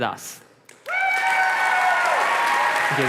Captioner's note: applause